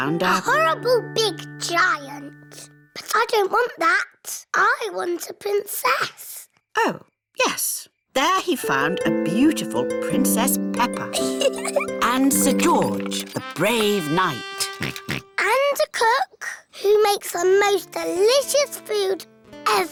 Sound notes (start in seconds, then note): 11.1 chuckles; 14.7 oinks